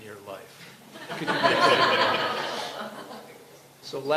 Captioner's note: laughter